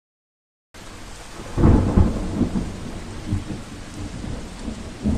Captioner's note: thunder crashing